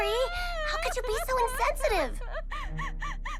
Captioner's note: Elda cries